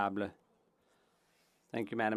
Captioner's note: speaking French